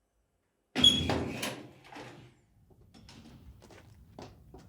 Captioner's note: door creaks